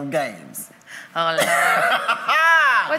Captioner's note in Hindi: हंसी